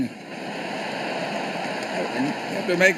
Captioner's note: laughter